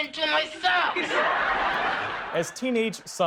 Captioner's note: laughter